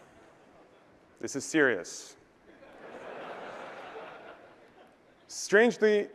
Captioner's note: laughter